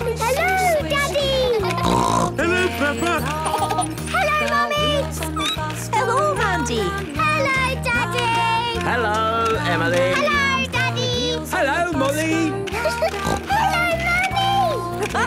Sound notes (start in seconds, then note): 1.6 snorting; 2.5 laughter; 5.3 squeaking; 12.9 giggling and snorting